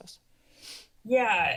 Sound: sniffs

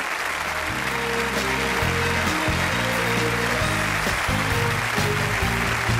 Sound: audience applauding; upbeat music

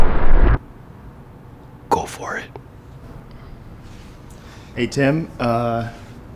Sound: whispering

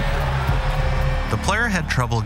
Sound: crowd cheers

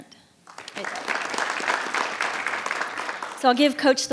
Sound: audience applauds

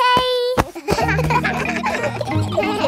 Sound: kids laughing

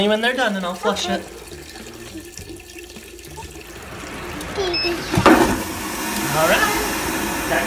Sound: toilet flushing

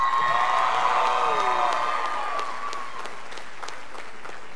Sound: scholars applauding

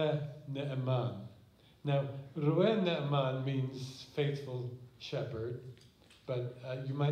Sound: non-english

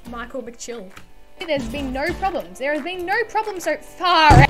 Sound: desk slam

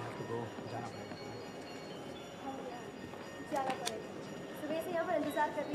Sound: speaking foreign language

